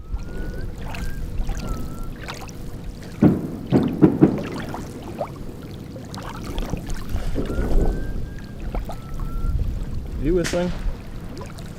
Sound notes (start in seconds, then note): 0.2 eerie whistling; 3.3 fireworks booming; 7.6 eerie whistling